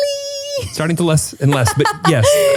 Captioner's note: laughs